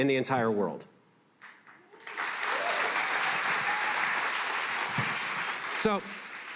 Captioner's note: applause